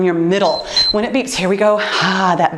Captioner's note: timer beeps